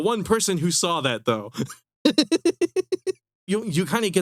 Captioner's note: laughing